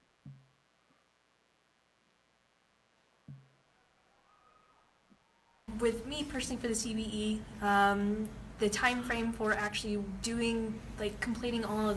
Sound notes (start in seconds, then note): 4.1 silence